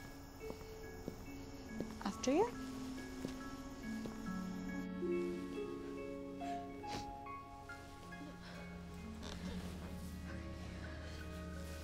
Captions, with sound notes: After you. - [sniffling] Okay.